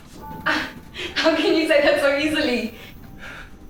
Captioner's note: Carrie scoffs